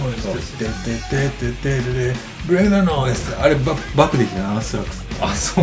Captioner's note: humming